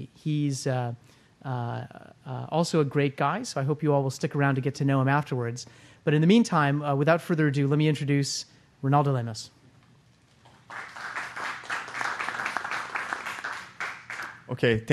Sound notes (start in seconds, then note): 10.4 applause